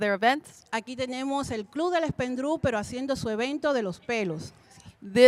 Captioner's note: Spanish language 00:42:12